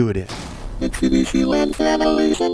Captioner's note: crashing sound